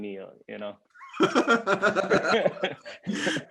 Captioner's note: laughing